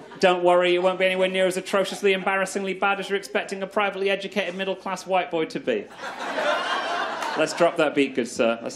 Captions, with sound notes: (chuckles) Don't worry, it won't be anywhere near as atrociously embarrassingly bad as you're expecting a privately educated middle class white boy to be. (crowd laughs) Let's drop that beat good sir.